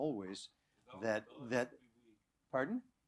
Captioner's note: non-english